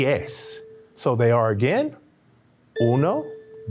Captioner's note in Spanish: hablando español